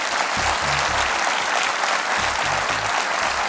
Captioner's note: applause